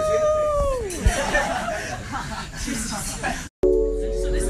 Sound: laughter

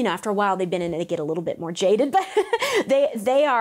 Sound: laughs

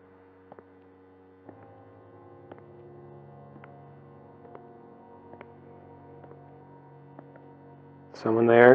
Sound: distant footsteps

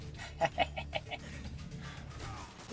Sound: laughs

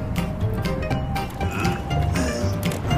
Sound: sighs; grunting

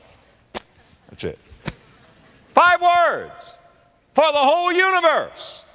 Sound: slap

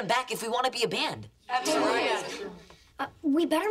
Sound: all agreeing

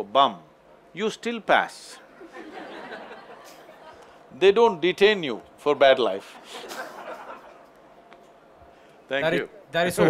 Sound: few laugh; laughs

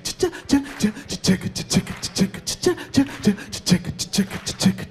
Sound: audience clapping

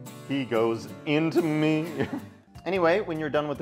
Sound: laughs

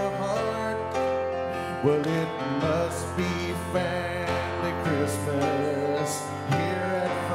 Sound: none

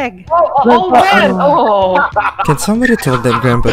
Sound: cackles

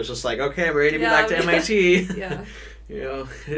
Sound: chuckles

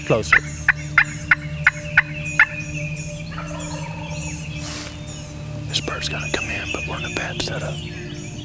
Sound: whispering

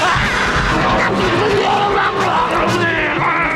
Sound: screaming

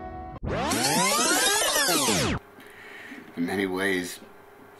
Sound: audio tape screeching

